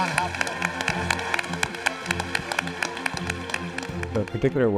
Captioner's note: audience applauding